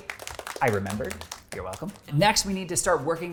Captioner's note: audience applauding